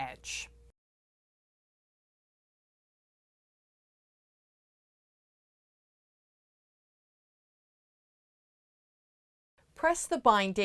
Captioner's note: no Sound Present